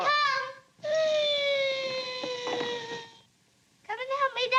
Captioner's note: screech